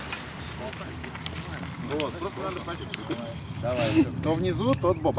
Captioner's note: chatter